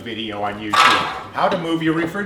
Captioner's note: fridge creaking